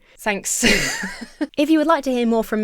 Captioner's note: laughs